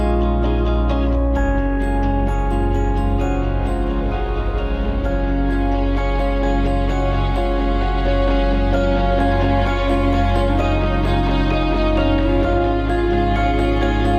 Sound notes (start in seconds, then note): 2.9 laughs